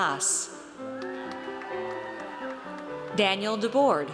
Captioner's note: audience cheers